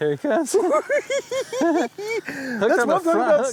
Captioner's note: giggling